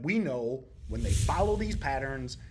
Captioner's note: text whooshing